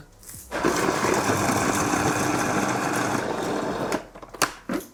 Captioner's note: blender grinding